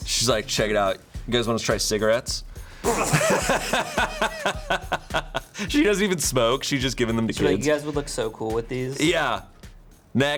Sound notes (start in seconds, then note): 2.8 all laughing